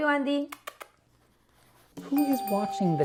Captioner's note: kissing; dinging